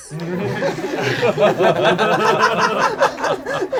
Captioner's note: group laughs